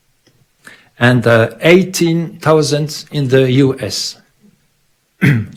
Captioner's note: clears throat